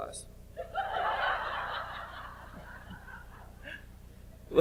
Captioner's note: audience laughs